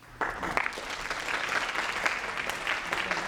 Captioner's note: applause